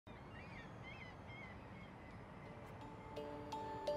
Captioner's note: birds chirping; slow music